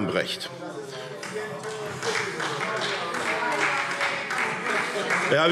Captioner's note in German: Beifall SPD - Zurufe